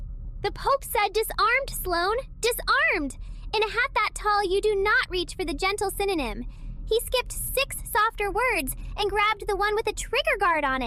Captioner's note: excited